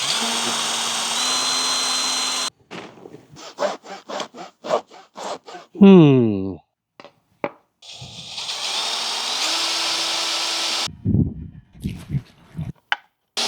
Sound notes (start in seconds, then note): 3.4 drill whirring